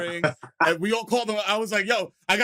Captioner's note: laughter